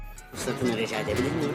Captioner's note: speaking foreign language